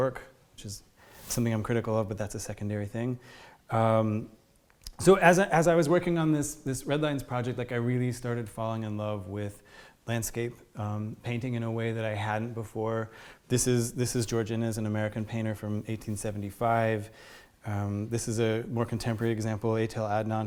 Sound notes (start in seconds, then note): none